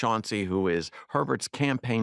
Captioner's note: none